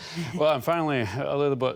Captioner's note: laughter